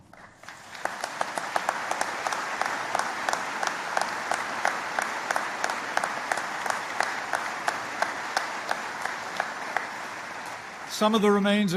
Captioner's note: applause